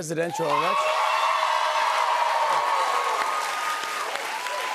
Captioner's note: cheers and applause